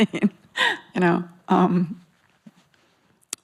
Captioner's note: laughs